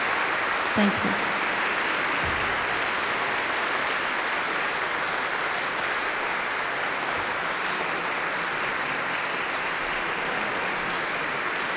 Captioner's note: applause